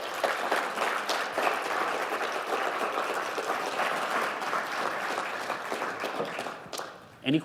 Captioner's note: applause